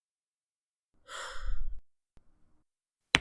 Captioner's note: sighs